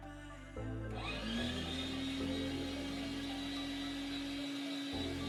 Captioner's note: motor whirring